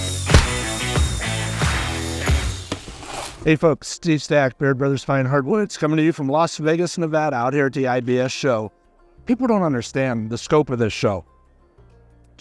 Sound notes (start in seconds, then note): 0.0 upbeat country music; 0.3 stamp stamping; 0.3 saw whirring; 0.3 hammer tapping; 2.5 paper tearing